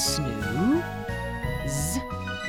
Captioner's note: making "z" sound